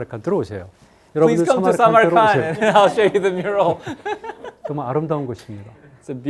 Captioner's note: speaking in Korean; laughs; speaking in Korean